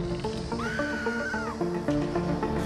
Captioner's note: screams; suspenseful music